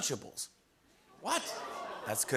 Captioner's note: audience awws